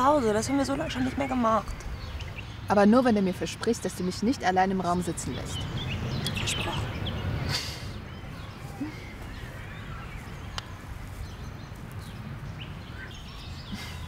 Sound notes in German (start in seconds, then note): 8.7 giggles